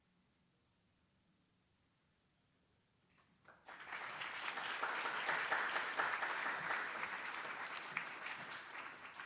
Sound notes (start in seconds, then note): 3.5 attendees applauding